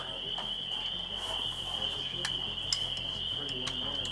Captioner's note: cicadas buzzing